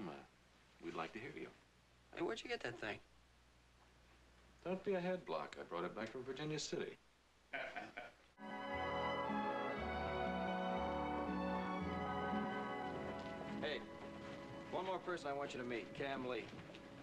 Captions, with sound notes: WE'D LIKE TO HEAR YOU. HEY, WHERE'D YOU GET THAT THING? DON'T BE A HEADBLOCK. I BROUGHT IT BACK FROM VIRGINIA CITY. ( laughing ) HEY, ONE MORE PERSON I WANT YOU TO MEET-- KAM LEE.